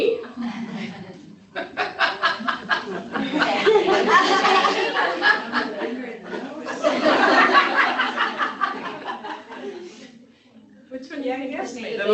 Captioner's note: laughter